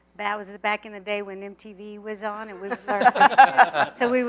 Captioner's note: laughter